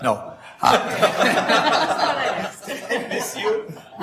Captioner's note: laughs; members laugh